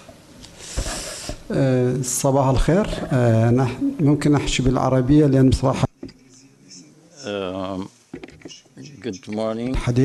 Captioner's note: speaking in foreign language